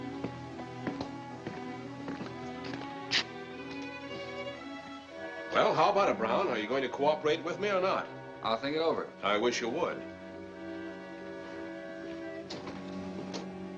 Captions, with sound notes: [Footsteps approaching] Well, how about it, Brown, Are you going to cooperate with me or not? I'll think it over. I wish you would.